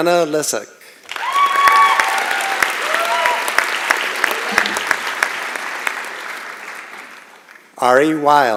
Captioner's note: applause and Cheering